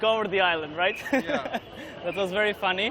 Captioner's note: laughter